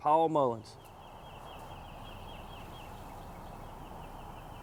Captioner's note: birds chirp